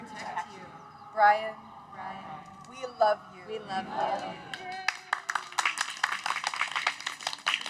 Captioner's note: cheers